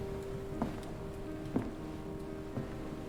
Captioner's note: none